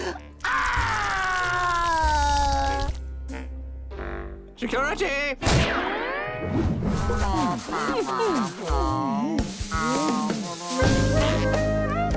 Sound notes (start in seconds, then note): 0.4 crying; 6.8 groaning